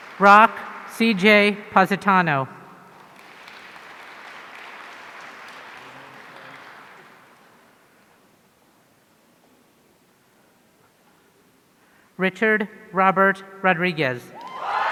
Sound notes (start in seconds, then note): 2.9 audience applauding; 14.4 audience cheering